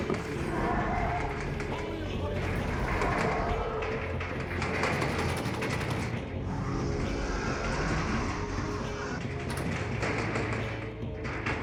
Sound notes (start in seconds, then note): 2.1 dramatic music; 2.1 roars